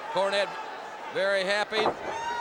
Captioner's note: crowd chatter